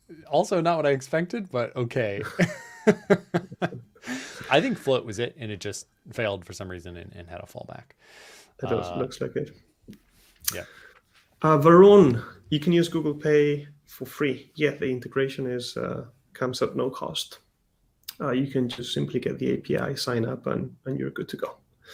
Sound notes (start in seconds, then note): 2.2 laughs